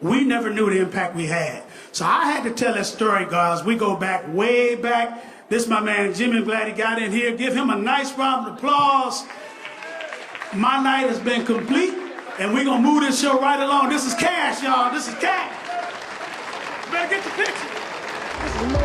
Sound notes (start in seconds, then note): 9.1 applause